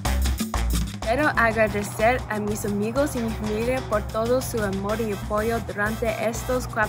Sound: speaks in foreign language

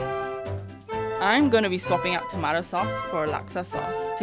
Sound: voiceover

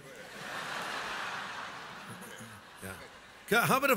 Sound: audience laughs

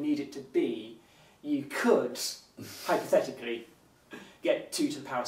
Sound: chuckles

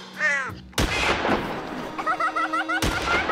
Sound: cawing; gunshot; laughter; gunshot

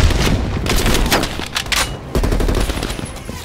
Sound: gunshots

